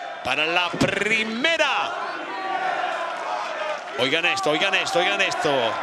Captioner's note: applause